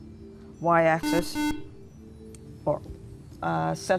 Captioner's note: buzzer